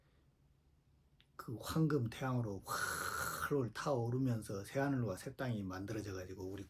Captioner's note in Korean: 한숨